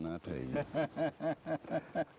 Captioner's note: laughter